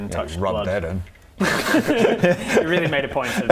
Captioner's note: unsympathetic laugh